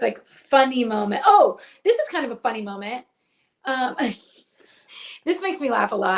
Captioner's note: laughs